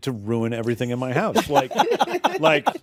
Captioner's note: laughter